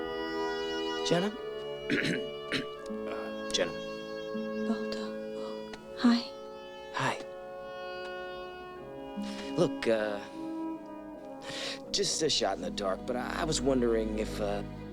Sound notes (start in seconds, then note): 1.8 clears throat